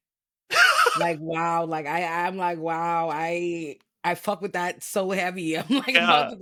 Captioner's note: laughing